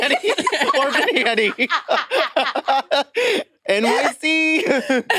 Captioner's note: participants laughing